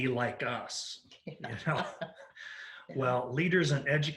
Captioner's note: both laugh